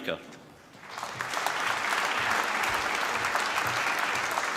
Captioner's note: applause